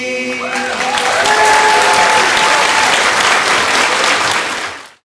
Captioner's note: applause